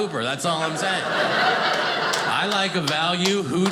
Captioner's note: audience laughing